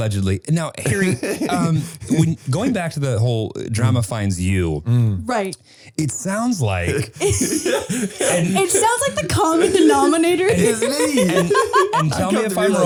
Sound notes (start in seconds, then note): 6.0 Harry laughing; 11.0 laughing